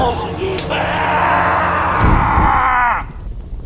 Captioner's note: roars